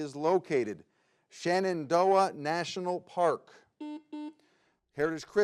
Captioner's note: button blips